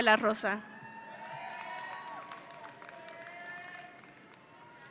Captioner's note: audience applauding